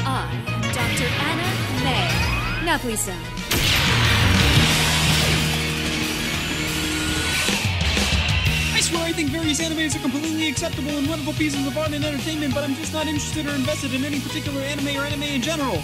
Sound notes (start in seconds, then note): 4.4 loud explosion; 6.8 upbeat techno music